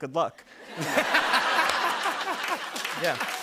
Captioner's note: laughter